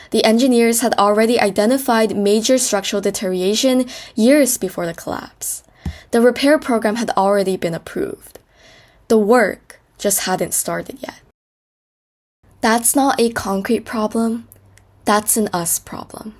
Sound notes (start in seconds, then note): 11.8 pause